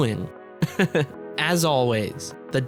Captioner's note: laughs